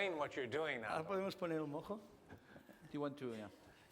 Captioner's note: non-english speech